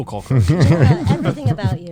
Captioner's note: chuckling